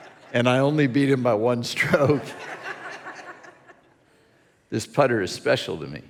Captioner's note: congregation laughing